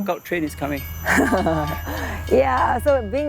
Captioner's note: chuckles